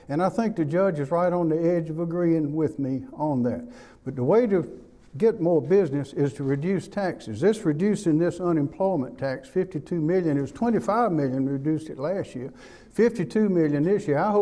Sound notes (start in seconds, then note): none